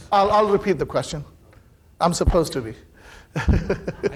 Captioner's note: laughs